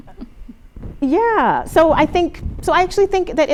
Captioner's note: laughter